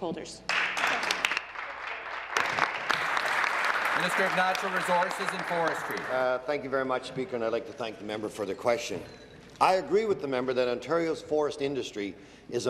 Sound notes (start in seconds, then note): 4.4 applause